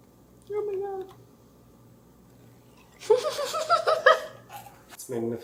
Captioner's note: laughs